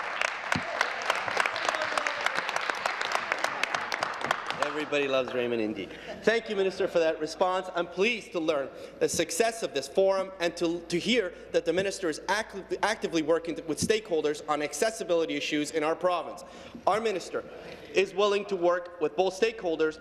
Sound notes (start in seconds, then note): 2.2 applause